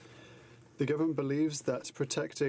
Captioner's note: speaking in french